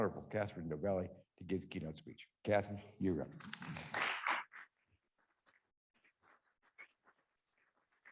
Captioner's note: applause